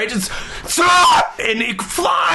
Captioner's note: screaming